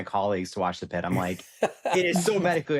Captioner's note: laughs